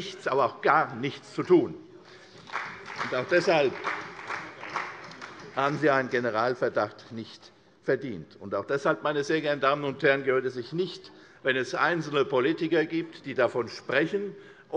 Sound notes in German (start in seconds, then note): 2.0 Beifall CDU, vereinzelt BÜNDNIS 90/DIE GRÜNEN und SPD